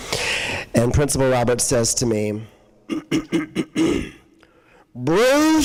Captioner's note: clears throat